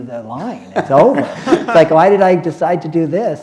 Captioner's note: laughter